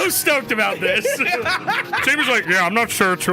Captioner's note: laughs